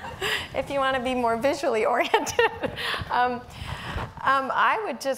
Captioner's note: everyone laughing; laughing